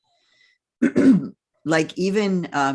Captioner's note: clears throat